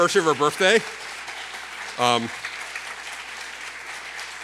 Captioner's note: applause